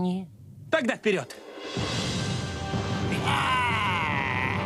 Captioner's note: growling